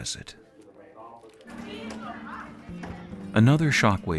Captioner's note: students chatting